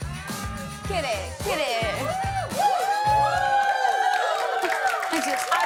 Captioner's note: cheers and applause